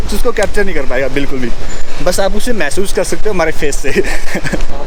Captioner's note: laughs